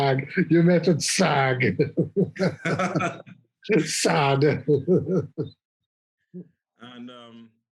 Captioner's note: laughter